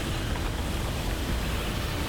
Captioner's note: water cascading